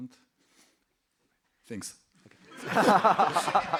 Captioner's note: laughter